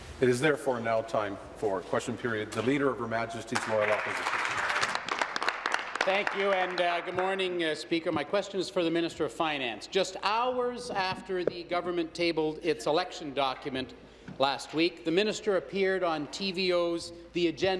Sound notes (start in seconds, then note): 7.7 applause